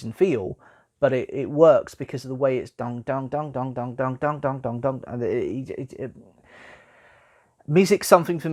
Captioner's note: imitates the beat of one of the scores